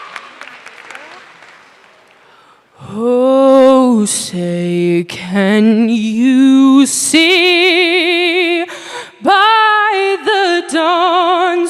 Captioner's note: applause